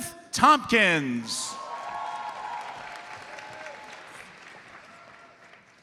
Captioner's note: audience cheers and applauds